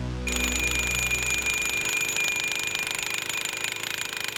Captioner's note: rhino pounder hammering